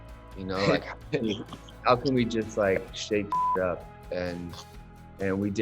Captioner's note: beep